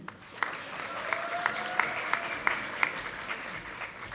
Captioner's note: audience applauding